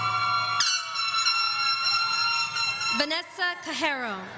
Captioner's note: horns blowing